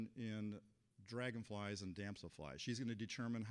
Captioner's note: none